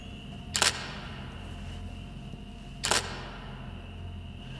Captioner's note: camera shuttering